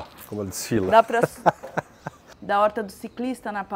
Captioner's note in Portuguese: risos